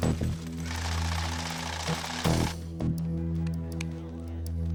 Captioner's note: machine buzzing; bills slapping; suspenseful music